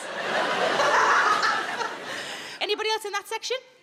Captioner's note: audience laughs; laughs